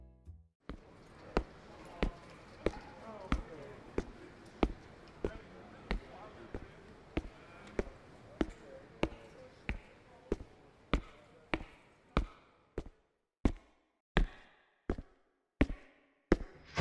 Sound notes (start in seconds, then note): 0.6 foot steps